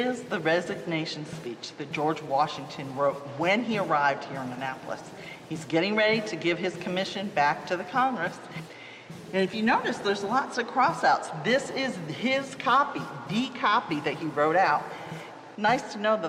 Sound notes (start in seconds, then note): none